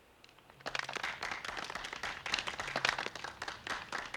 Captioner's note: clapping